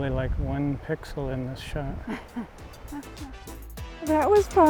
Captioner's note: laughs